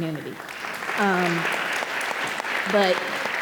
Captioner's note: audience applauding